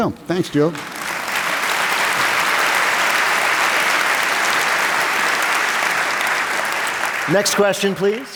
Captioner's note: applause